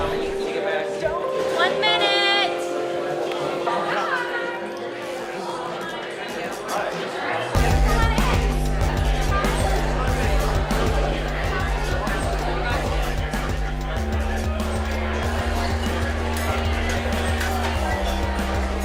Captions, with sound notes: - One minute. - Hi. Come on in. (restaurant commotion)